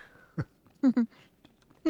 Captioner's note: giggles